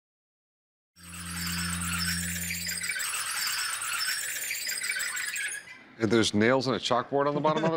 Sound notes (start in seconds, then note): 1.0 wheels squealing